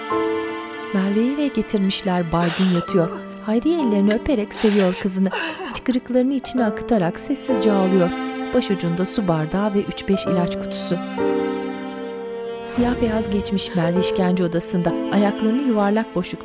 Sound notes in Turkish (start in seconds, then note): 2.1 Ağlama sesi; 13.8 Ağlama sesi